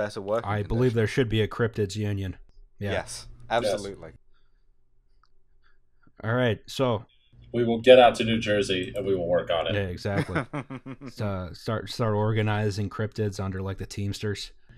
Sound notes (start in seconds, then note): 3.4 general agreement